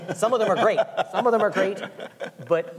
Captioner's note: laughing